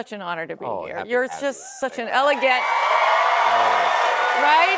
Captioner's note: cheers and applause